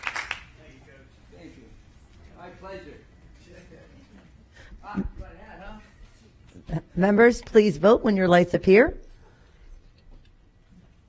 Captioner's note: applause